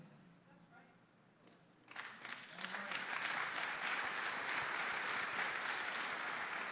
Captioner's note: audience applauding